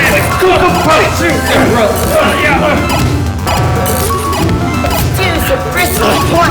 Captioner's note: video game beeping; both grunting